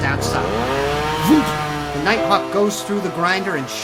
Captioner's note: wood-chipper whirling